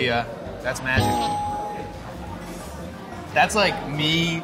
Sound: bell dings

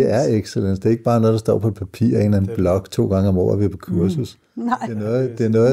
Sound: laughs

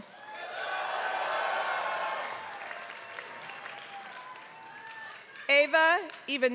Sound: applause

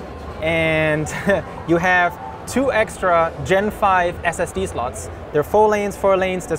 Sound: chuckles

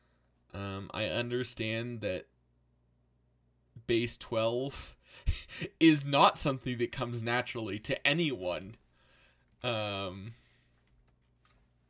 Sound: snickers

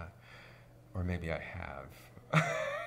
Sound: laughs

